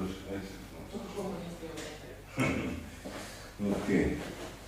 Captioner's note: coughs